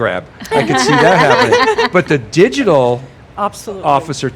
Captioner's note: laughing